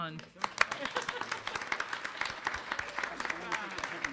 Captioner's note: applause